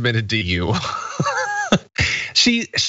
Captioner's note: laugh